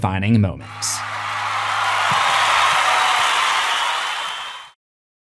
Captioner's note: crowd cheering